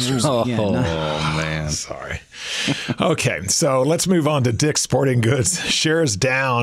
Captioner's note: laughs